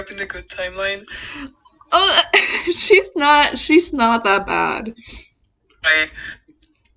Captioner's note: strangled noise